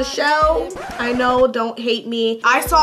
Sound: record scratching

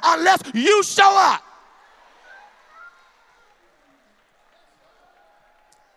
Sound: loud crowd agreement

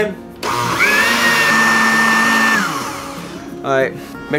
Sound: more blending noises

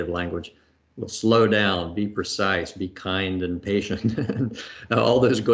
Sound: laughs

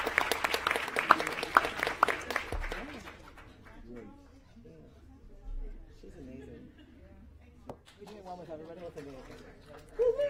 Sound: applause

